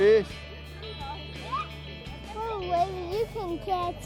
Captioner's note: child murmurs